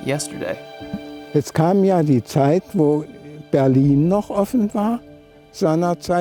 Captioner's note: speaking in German